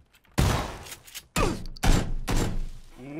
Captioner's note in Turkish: yine nerden geldiği belli olmayan atışlar